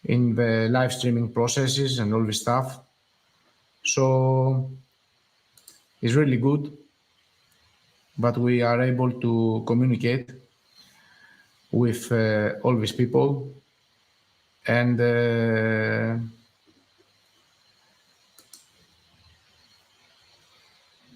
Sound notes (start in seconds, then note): 18.3 mouse clicks